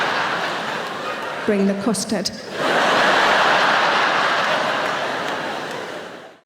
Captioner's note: audience laughing; audience laughing